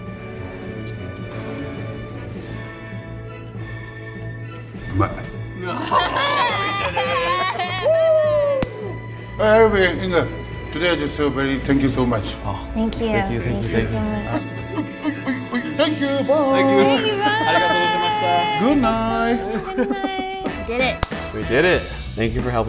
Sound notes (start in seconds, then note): 0.0 slurps; 0.3 triumphant music; 5.0 speaks in foreign language; 5.6 laugh; 17.7 speaks in foreign language